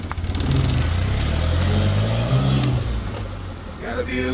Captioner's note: engine revving